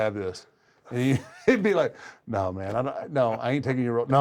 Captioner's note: laugh